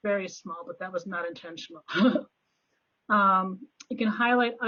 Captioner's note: laughs